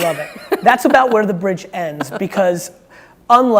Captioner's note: laughing